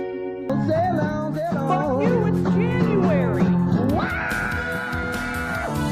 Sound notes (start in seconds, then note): 4.0 scream